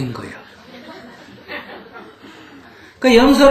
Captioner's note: audience Laughter